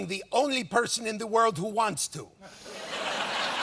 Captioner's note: laughter